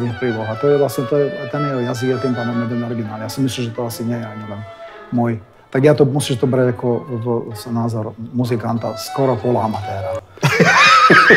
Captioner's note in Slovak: Smiech